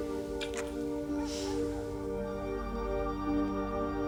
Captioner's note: kisses